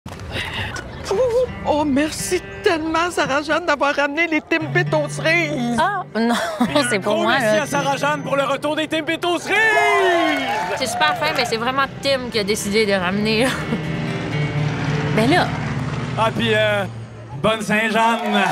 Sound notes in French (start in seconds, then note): 13.7 bruit d’avion